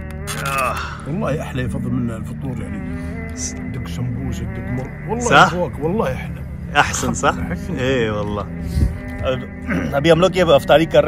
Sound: speaking Arabic

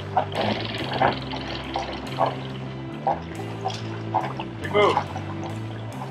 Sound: water splattering

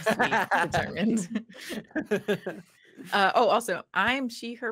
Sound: all chuckling

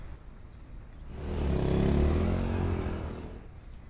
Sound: bike vrooming

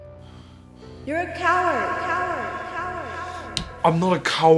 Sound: echoes

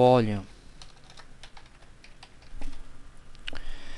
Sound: typing

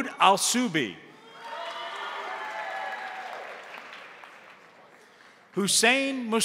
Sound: crowd cheering; crowd applauding

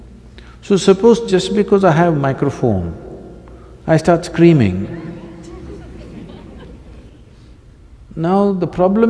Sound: few Laugh

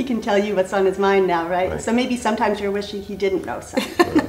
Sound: giggle

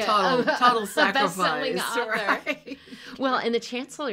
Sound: laughing

